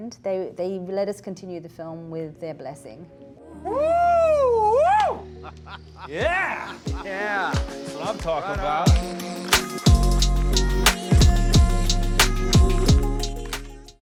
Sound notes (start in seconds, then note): 5.2 man laughs; 9.1 mellow electronic music